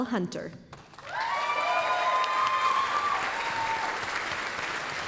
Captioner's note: applause, cheering